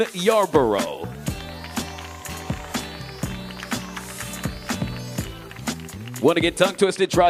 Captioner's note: audience cheering; audience applauding